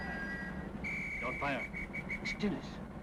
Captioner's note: whistle blowing